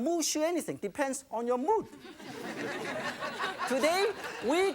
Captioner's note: audience laughing